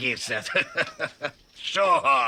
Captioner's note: chuckling